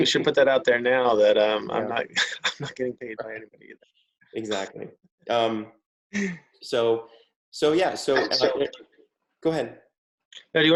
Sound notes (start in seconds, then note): 5.3 chuckles; 7.8 audio glitches